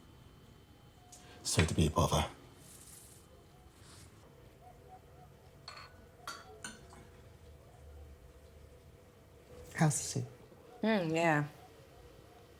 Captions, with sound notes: Sorry to be a bother. (dog barking) (spoon clinking) - How's the soup? - Oh, yeah.